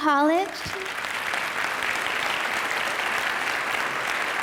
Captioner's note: audience applause